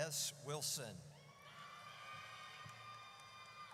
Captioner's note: audience cheers